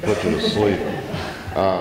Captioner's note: laughter